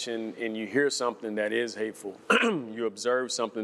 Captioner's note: clears throat